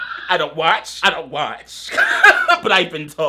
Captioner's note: laughs